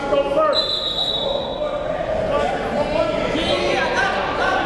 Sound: whistle blows

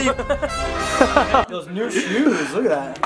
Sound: laughing

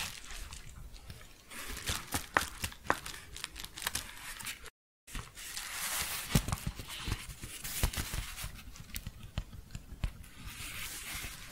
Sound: crinkling and shuffling

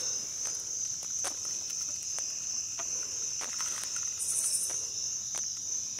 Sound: insects singing

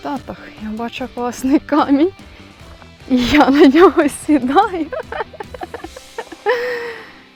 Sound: laughing

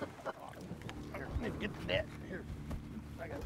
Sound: laughing

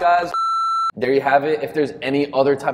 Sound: beep

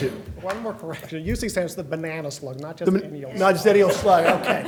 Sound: laugher

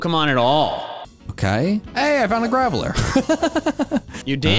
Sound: laugh

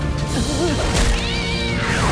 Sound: screeching

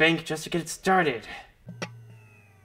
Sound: computer shutting down

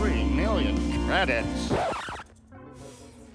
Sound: record scratches

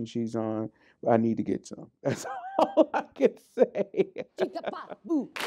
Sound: laughs

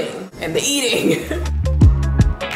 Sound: laughing; upbeat music playing

